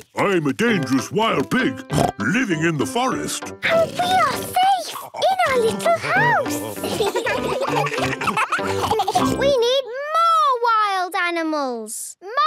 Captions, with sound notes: I'm a dangerous wild pig! (snorts) Living in the forest! - And we are safe in our little house! (children giggling) - We need more wild animals!